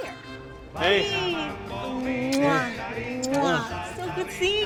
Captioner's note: kissing Sounds